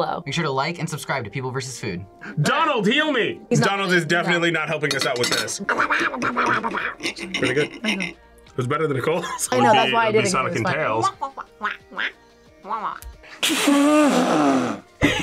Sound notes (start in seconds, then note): 5.6 imitates Donald Duck quacking; 11.0 all laugh; 11.1 imitates Donald Duck quacking